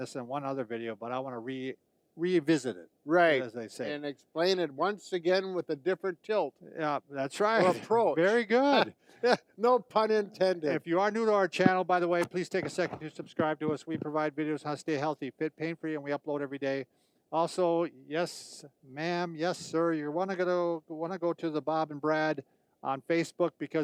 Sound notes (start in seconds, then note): 8.9 laughs